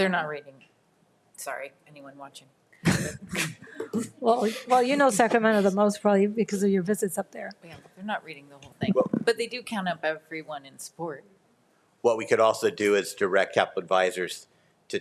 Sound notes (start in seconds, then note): 3.0 people laughing